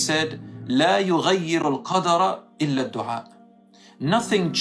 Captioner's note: Arabic